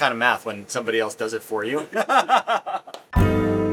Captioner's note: laughs